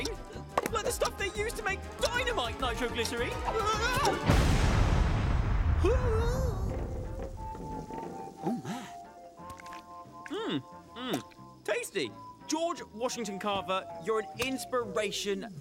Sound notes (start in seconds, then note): 5.8 groaning